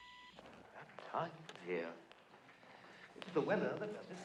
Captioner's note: english accent